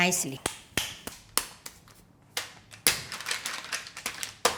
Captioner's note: hand slapping